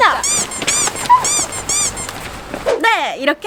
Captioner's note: waddling